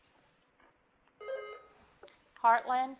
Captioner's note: bell dings